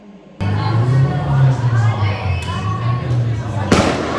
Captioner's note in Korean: 어수선한 길거리